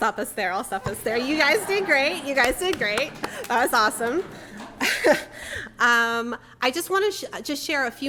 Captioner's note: applause